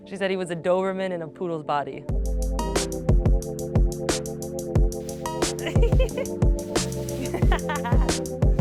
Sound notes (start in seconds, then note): 2.5 bright music; 2.5 laughing